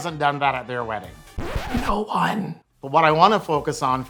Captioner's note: record scratches